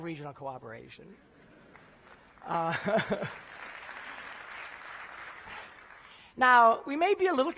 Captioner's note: applause